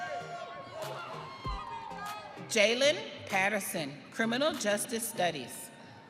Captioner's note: audience cheering